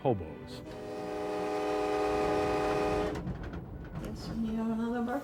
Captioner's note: train Whistle